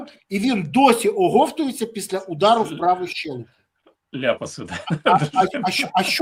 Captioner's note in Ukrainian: сміх